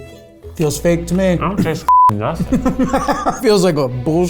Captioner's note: beep